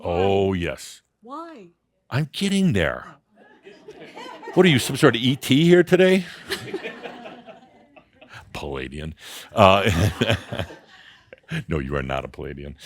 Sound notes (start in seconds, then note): 3.2 some chuckles; 6.9 more chuckles; 9.5 Adamus chuckles